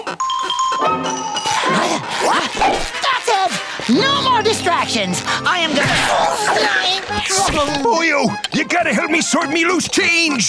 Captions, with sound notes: [panting] That's it, no more distractions! I am-- Boyo, you got to help me sort my loose change!